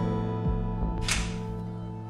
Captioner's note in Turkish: Kapı açıldı